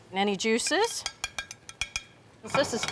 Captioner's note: tongs clattering